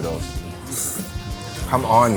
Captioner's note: slurping noodles